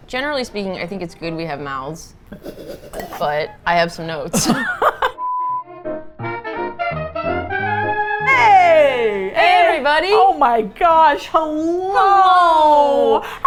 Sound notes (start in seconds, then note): 2.4 laughs into her cup, sound muffled; 4.4 both laugh; 6.2 upbeat Jazz Music